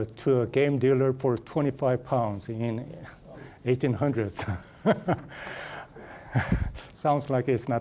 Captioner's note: laughing